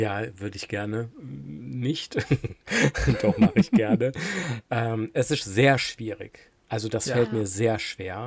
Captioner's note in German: gelächter